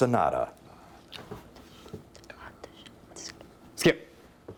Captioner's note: whispering